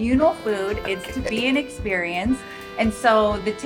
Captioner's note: chuckles